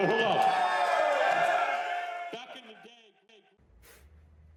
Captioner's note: crowd cheering